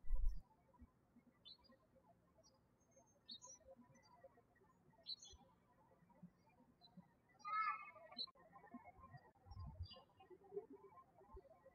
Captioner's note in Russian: птички щебечут